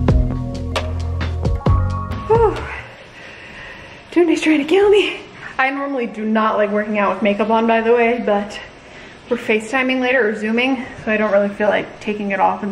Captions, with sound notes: - Oh, (Breathing out) Tony's trying to kill me. I normally do not like working out with makeup on by the way but we're FaceTiming later or zooming, so I don't really feel like taking it off